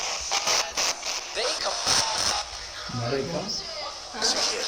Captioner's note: spirit box voice; spirit box voice